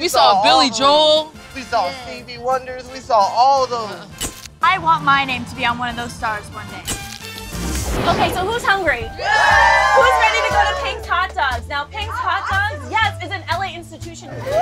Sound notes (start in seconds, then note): 4.2 camera shutter snaps; 6.9 camera shutter snaps; 9.0 all cheering